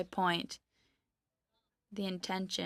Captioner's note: speaking French